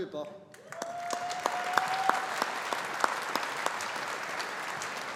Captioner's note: audience applauding